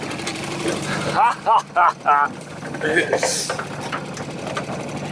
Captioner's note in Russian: смех